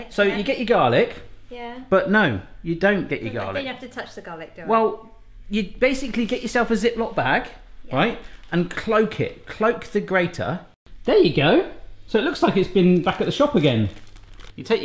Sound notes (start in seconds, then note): none